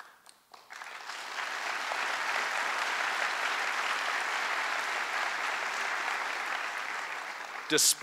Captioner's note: applause